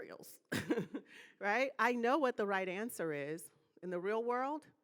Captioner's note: laughing